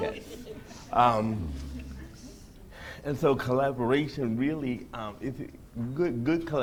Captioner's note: laughter